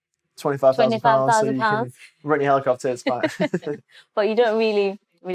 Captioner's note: laughter